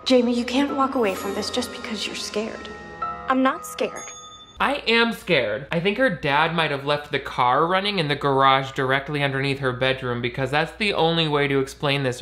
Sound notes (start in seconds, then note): 4.0 bell chiming